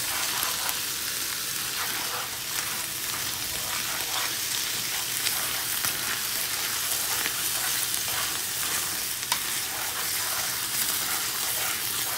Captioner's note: sizzling